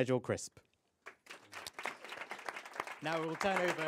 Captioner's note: applause